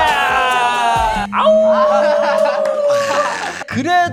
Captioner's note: howling in happiness